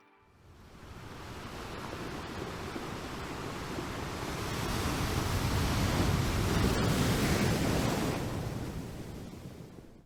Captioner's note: wave noises